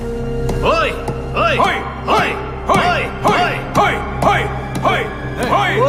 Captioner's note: all cheering